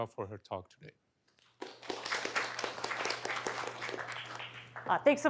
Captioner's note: applause